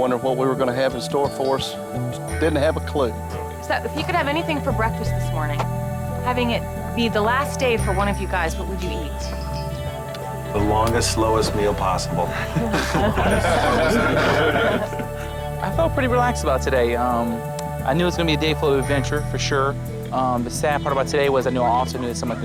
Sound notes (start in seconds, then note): 12.2 lalaugughthterer